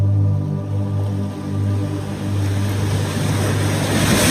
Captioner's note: waves crashing